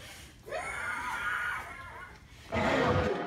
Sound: screams

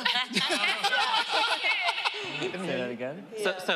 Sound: indistinct chatter and laughter

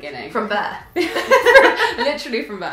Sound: laughing

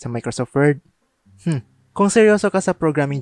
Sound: scoffs

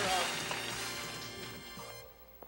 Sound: applause, music fades

